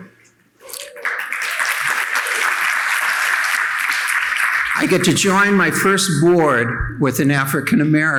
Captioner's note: audience applauding